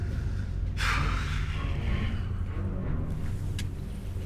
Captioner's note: exhales heavily